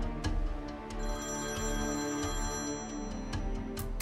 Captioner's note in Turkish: Telefon Çalıyor